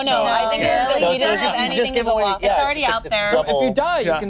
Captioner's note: group talking together